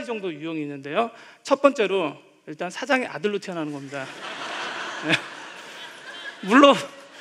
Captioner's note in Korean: 웃음